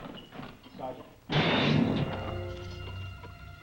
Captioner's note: gate slams; tense orchestral music